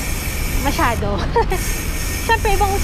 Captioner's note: laughs